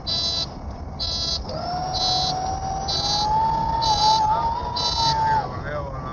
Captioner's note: sound Of Landing Gear Extending